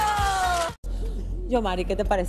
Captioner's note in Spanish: aplausos